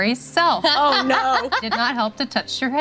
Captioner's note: laughing